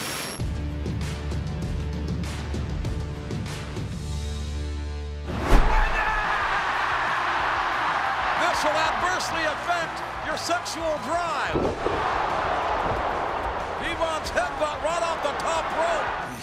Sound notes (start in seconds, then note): 2.7 applause; 11.0 applause